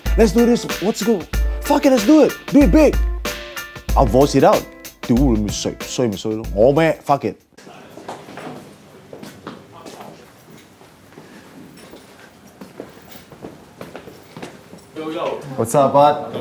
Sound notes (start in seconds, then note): 7.6 footsteps